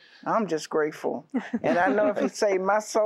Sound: laughter

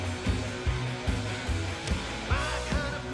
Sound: none

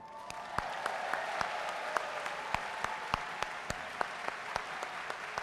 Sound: audience cheering and clapping

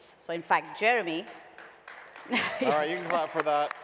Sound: light applause

